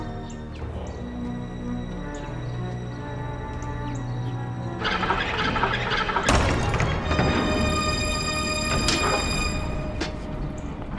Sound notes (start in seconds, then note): 5.2 metallic whirring; 7.7 door opening